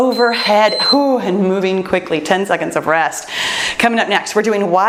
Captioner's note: timer beeps